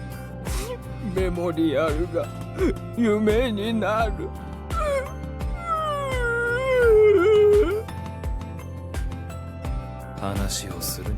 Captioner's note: sobs